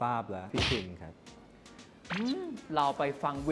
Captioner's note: silence